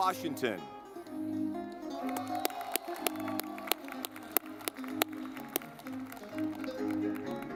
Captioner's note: lively music; audience clapping